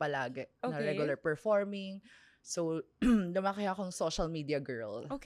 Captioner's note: clears throat